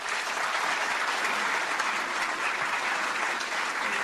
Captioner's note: applause